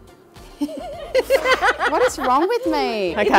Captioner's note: laughs